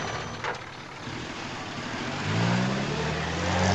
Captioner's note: engine revs